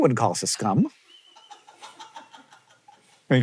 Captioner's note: CREW laughs